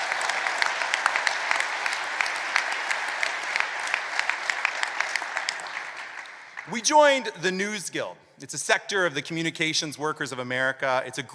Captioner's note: applause